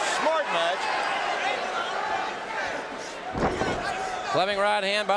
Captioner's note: audience cheering